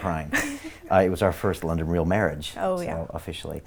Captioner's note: giggling